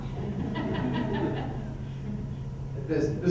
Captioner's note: laughter